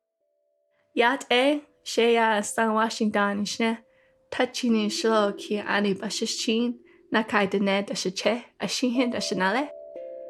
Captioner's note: non-English speech